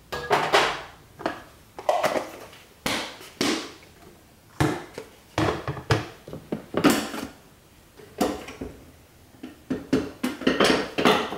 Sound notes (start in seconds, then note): 1.8 container closing